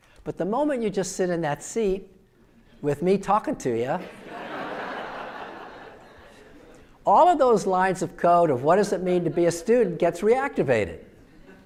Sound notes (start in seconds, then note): 4.0 audience laughing